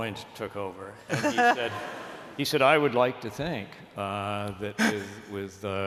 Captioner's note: laughter